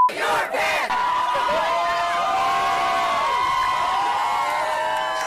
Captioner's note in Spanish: aplausos